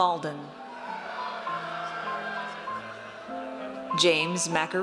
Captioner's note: audience cheers